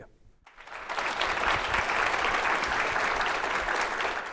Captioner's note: audience applauding